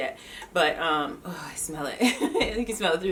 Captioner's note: laughs